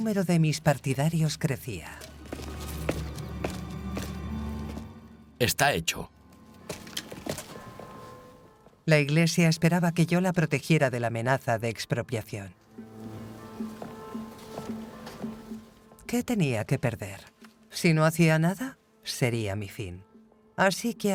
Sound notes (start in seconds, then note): 7.5 ominous music; 12.7 upbeat music; 12.8 water splashing